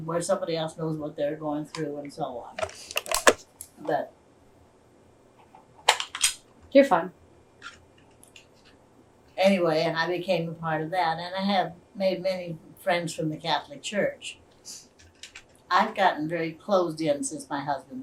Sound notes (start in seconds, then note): none